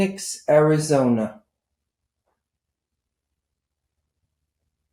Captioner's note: pauses 6 seconds